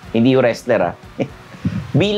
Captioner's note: scoffs